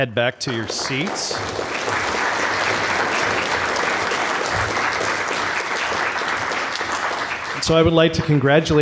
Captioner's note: applause